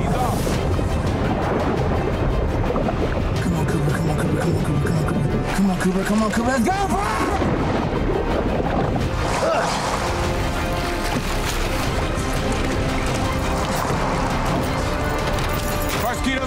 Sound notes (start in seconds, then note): 7.7 urgent music; 7.7 water gurgling; 10.9 water splashing; 15.2 key jingling